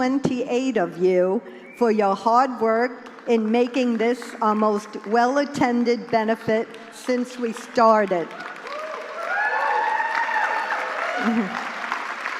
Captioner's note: applause